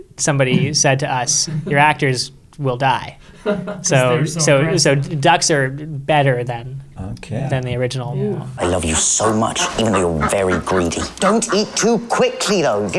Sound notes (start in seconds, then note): 3.3 laughing; 8.6 duck quacking